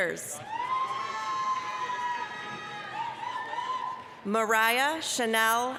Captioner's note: applause, cheering